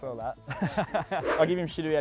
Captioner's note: laughing